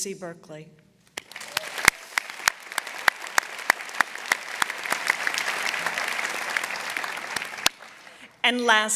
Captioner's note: applause